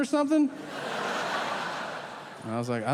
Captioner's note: audience laughing